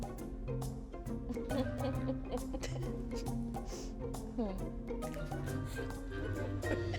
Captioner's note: laughs